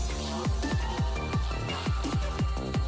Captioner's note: whistle